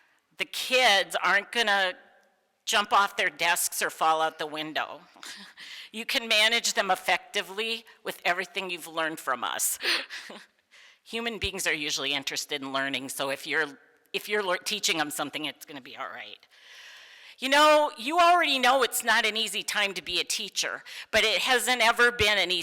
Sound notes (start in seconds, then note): 9.8 laughs